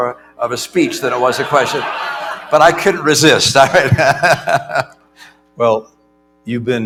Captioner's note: laughter